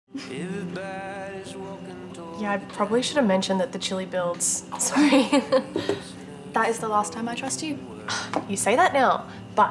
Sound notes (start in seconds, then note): 0.5 gentle music; 4.8 giggling